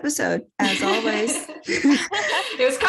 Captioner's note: tense laughter